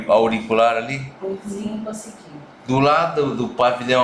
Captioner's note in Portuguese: murmúrio de afirmação